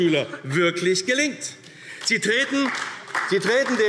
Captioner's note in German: Beifall AfD